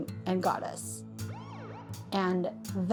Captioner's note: police siren blaring